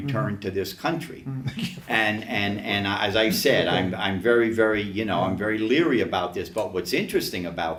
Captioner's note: laughs